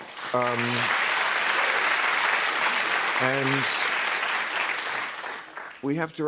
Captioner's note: applause